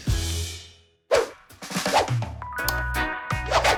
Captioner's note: drum thumps; graphics whooshing; upbeat music; cursor clicking; graphics whooshing